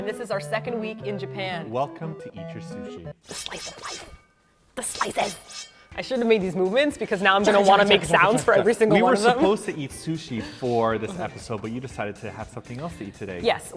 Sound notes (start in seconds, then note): 5.0 slicing sounds; 8.6 making chopping sounds